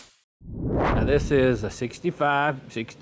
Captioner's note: whooshing